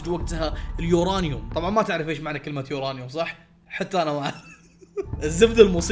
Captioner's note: chuckles